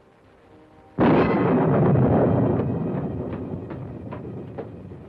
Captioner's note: thunder